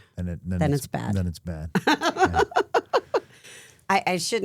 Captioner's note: Steph laughing